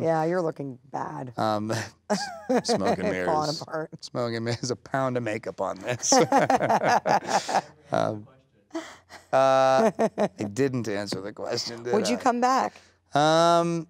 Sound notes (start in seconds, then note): 5.8 laughing